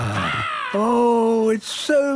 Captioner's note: sighing; gull squawking